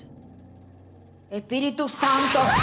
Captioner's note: speaking spanish; screams